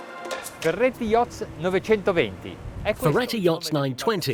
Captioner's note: speaking in a foreign language